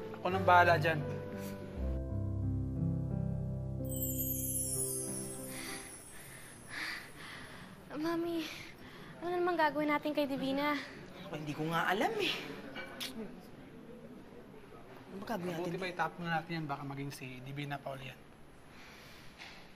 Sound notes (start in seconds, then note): 5.8 Ella pants; 12.9 clicks tongue